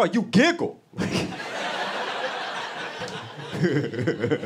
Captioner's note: laughter